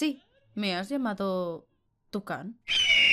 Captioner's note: eagle sound because of drama purposes